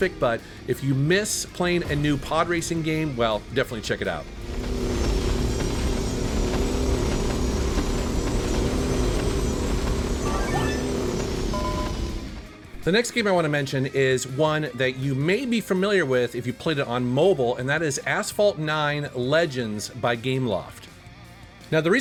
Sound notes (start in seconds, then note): 4.4 engine roaring; 9.9 electronic twinkle